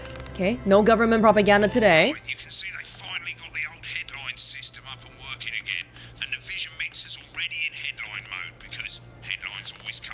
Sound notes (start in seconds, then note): none